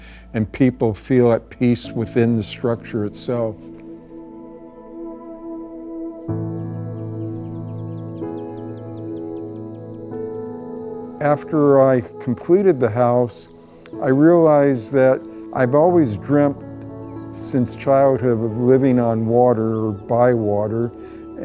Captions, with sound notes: and people feel at peace within the structure itself. [pensive music] [birds tweeting] After I completed the house, I realized that I've always dreamt since childhood of living on water or by water.